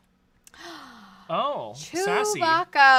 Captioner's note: gasps